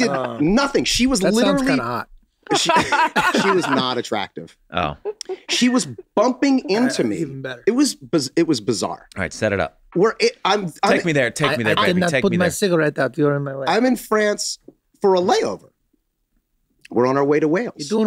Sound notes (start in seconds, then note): 2.5 all laugh; 10.7 Rob stammers